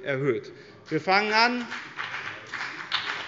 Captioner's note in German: Beifall bei dem BÜNDNIS 90/ DIE GRÜNEN